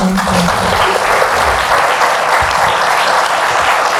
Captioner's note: applauds